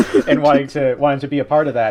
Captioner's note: laughter